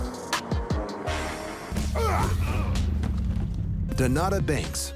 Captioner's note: men grunting